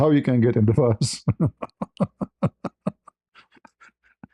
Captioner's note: ketawa